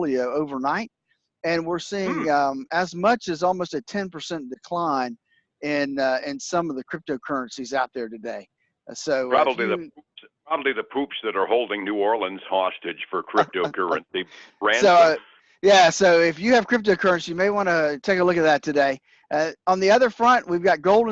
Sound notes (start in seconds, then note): 13.1 laughs